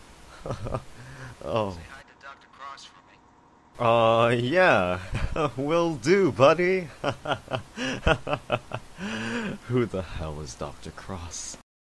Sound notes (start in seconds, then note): 0.3 nervous chuckling; 6.8 nervous laughter